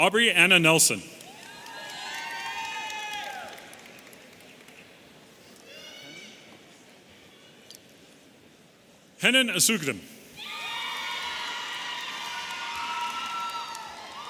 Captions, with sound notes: Aubrey Anna Nelson. (audience cheering) Hanane Assougdam. (audience cheering)